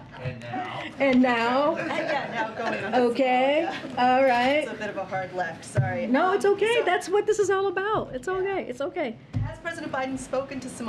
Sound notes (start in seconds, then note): 0.0 laughter; 2.2 laughs